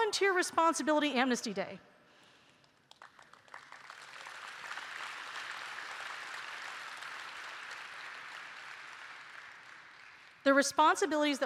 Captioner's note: applause